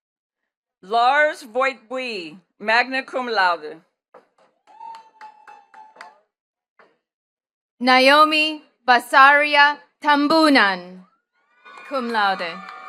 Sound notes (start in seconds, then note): 4.2 attendees cheering and clapping